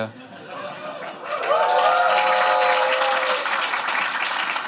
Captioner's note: applause